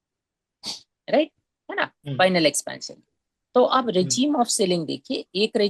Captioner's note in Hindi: नाक से की जाने वाली आवाज़